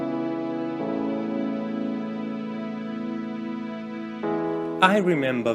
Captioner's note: voice-over